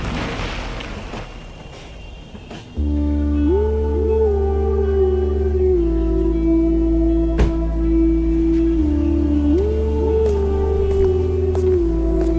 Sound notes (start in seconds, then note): 2.8 epic music; 7.3 door closing